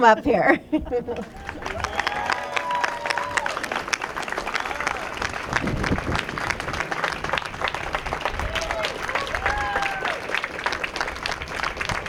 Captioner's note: applause